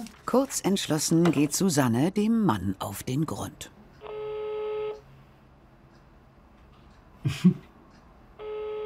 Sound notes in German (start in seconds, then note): 4.0 Freizeichen über Lautsprecher; 7.2 lacht kurz auf